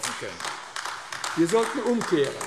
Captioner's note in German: Beifall AfD